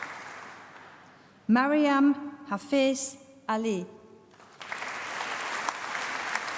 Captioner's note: applause